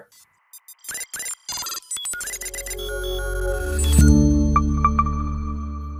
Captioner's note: electronic static tones